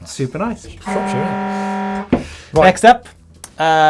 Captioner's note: klaxon sound